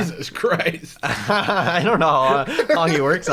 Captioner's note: laughter